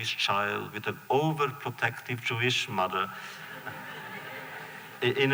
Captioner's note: laughter